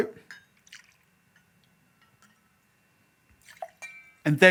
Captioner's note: liquid pours